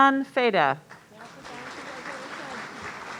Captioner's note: audience applauding